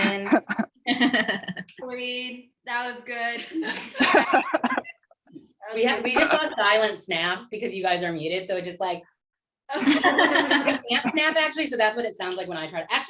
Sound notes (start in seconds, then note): 0.2 laughter; 3.4 laughter; 9.7 laughter